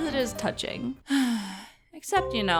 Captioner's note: sigh